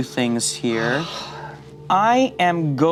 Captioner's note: sighs